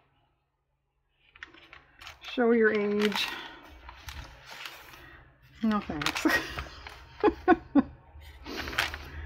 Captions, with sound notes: "show your age" no thanks (laughs)